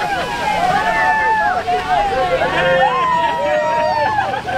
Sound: people cheering

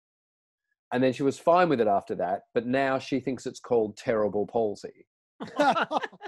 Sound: everyone laughing

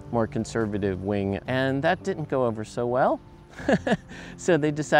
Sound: chuckling

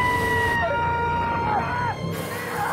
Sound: still screaming

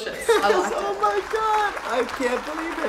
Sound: audience clapping

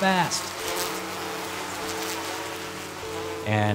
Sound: bees buzzing

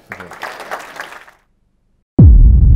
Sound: applause

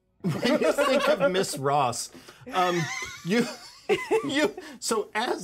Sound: laughs; laughs

